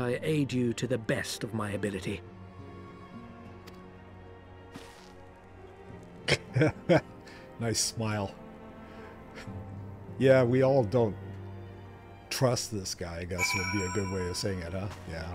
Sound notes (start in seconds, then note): 5.7 laughing